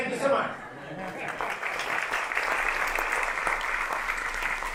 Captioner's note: applause